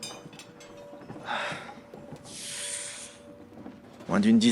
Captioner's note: Naudrem sighs